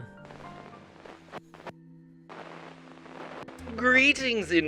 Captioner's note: static crackling